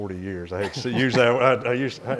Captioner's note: chuckles